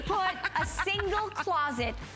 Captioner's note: laughter